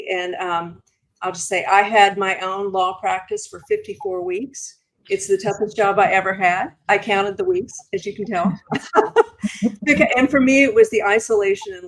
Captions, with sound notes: And I'll just say, I had my own law practice for 54 weeks. It's the toughest job I ever had. I counted the weeks, as you can tell. [laughing] And for me, it was the isolation